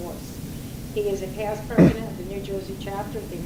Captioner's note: clears throat